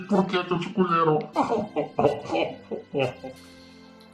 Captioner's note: laughing out loud